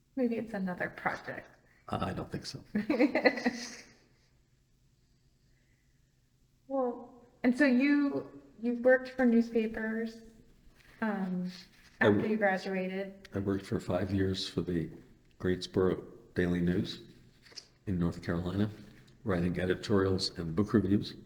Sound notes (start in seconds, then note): 2.7 laughs